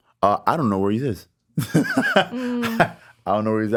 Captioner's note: laughs